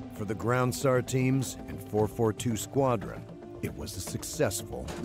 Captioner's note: voiceover